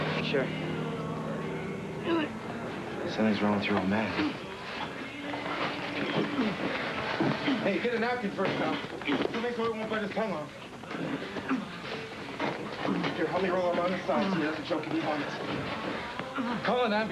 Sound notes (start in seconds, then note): 1.9 groaning